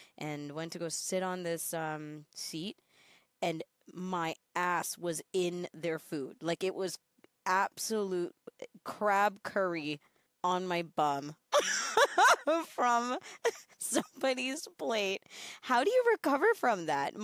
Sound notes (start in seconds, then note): 11.5 laughs